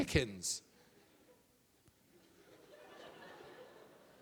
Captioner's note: audience laughing